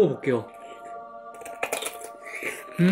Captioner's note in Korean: 오도독